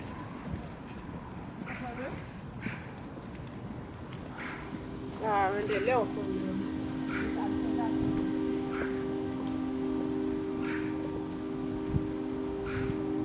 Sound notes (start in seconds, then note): 8.3 ljud av cyklar